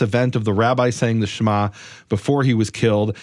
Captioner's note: speaks in foreign language